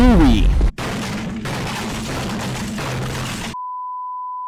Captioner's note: angry Gamer Noises